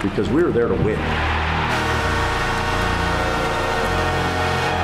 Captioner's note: crowd roaring